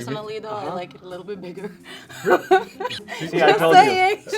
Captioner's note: laughs